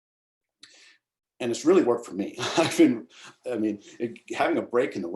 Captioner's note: laughs